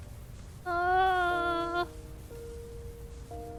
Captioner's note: groans